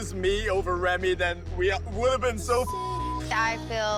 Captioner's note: beep